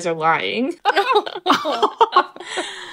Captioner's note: laughing